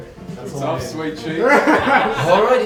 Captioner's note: laugh